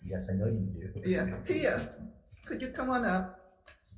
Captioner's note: chuckling